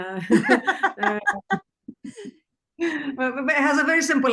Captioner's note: group laughs